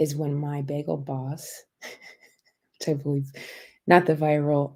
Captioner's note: laughter